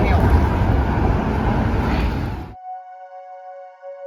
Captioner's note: traffic noise; calm ambient music